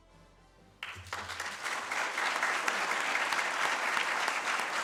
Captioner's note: audience claps